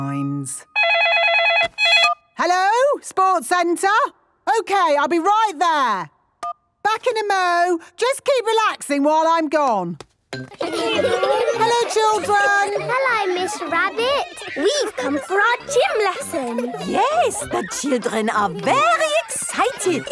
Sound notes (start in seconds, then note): 0.7 phone ringing; 9.9 laughter